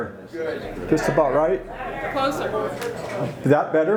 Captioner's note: crowd yells